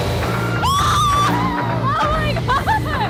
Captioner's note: engine roaring; Emelia cheers